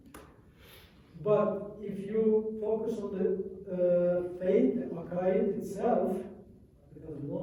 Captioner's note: non-english